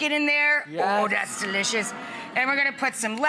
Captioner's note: crowd gasps